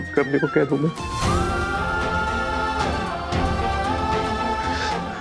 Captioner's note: emotional vocalising